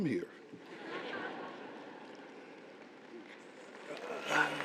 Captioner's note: audience applauding